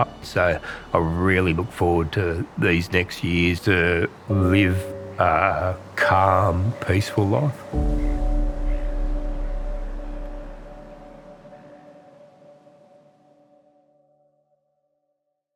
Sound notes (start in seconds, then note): 7.8 seagull squawking; 8.1 gentle music